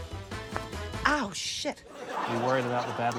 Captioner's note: coin thuds